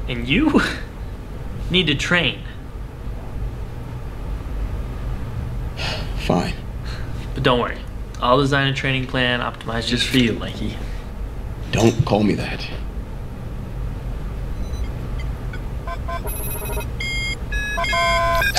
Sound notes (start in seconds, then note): 5.8 sighs